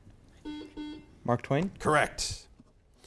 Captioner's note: buzzer beeps